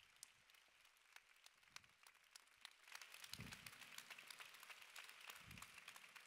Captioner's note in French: Applaudissements